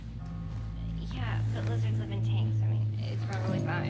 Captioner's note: background conversations